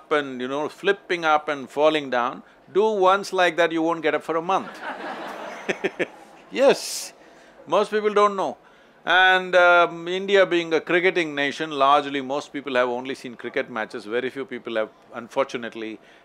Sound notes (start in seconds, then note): 4.6 laughter